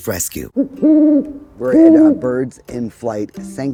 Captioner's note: owl hooting